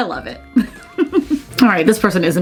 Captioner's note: laughing